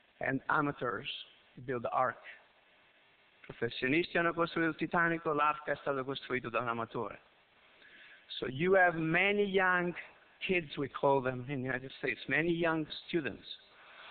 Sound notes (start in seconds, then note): 3.4 Italian